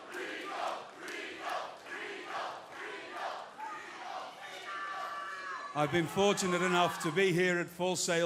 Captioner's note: cheers & applause; fans chanting